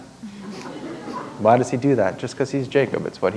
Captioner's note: chuckle